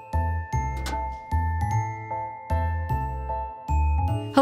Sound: hasp clicks

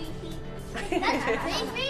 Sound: women laughing

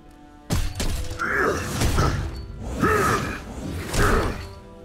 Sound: grunting

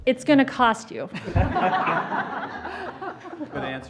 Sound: laughter

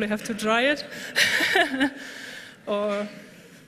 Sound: laughter

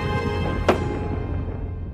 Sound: thud

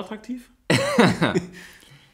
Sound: laughs

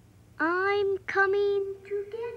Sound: none

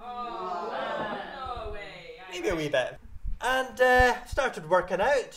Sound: awww

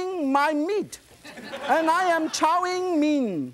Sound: audience laughs

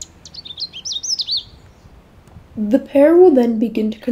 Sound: Canada Warbler Singing

